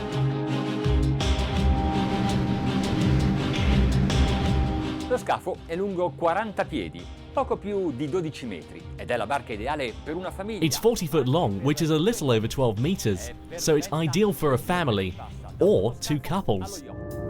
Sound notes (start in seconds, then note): 0.0 intense music; 5.2 man speaks in foreign language